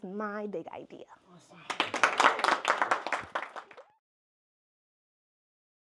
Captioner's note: applause, fades to silence